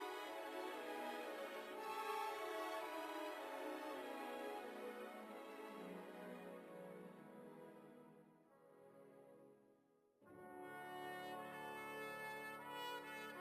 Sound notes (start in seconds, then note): 0.6 speaking French